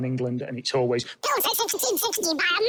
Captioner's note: chipmunk Pitched